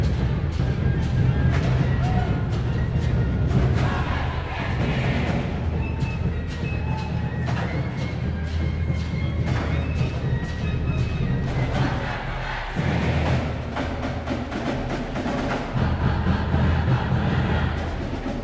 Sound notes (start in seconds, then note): 4.2 crowd chanting; 8.4 band playing; 11.1 crowd chanting